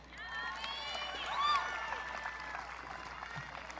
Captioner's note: audience cheering